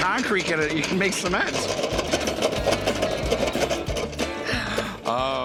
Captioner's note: loud whirring